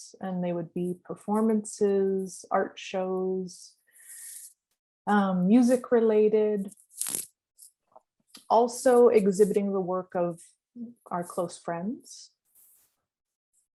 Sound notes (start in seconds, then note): none